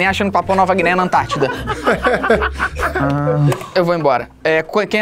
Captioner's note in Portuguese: risadas